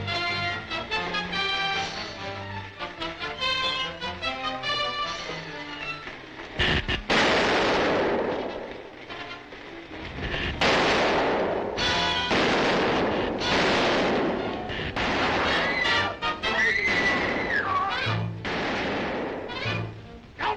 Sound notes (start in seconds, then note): 6.7 gun sparking; 6.7 gunfire blasting; 15.7 tense dramatic music; 16.6 Diana screaming